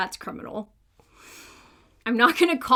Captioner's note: inhales